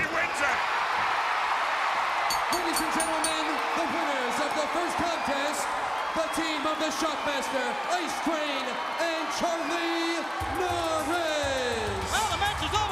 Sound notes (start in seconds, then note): 1.0 crowd cheering; 2.3 bell ringing